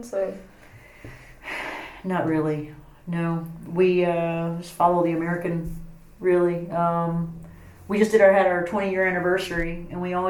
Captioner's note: sighs